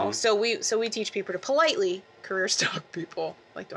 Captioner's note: politely